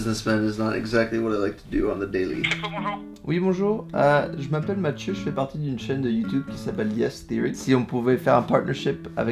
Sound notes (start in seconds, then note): 3.3 speaking French